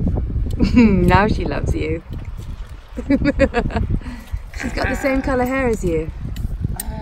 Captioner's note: laughs